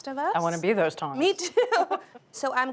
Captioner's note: both laughing